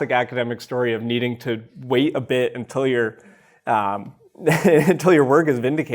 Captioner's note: chuckles